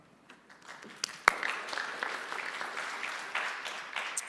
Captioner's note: applause